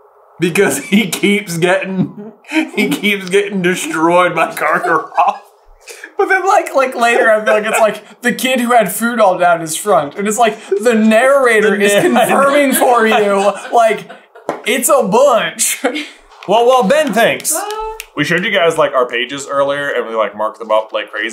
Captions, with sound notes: Because he keeps getting... [laughs] He keeps getting destroyed by Karkaroff. [laughter] But then, like, later, I feel like it's, like, the kid who had food all down his front and it's like, the narrator is confirming for you, like, it's a bunch. Well, while Ben thinks. We showed you guys, like, our pages earlier and we, like, mark them up like crazy.